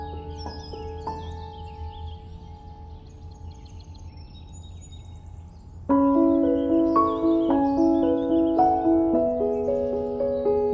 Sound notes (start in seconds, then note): 0.5 birds chirping; 5.9 calming piano music